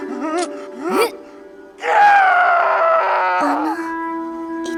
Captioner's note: tortured screaming